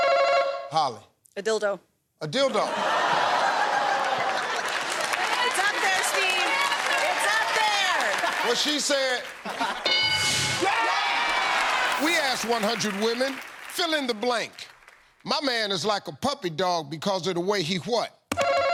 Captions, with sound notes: Holli. A dildo. A dildo. [ Laughter ] It's up there, Steve. It's up there! What she said. [ Cheers and applause ] We asked 100 women. Fill in the blank. My man is like a puppy dog because of the way he what?